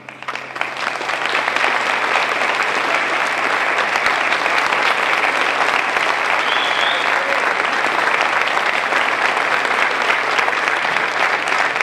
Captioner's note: applause